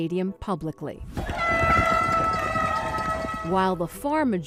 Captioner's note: air horn blows